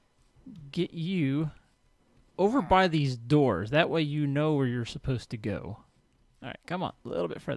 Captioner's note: villager chatters